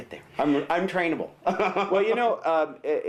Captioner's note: laughs